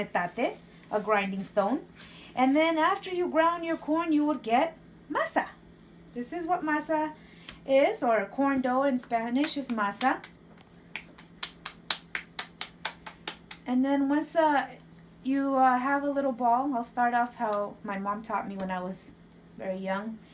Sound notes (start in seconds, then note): 10.8 claps dough